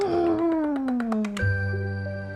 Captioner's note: kissing noises; gentle music